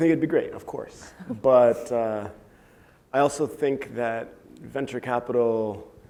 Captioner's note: laugh